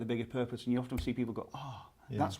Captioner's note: snaps fingers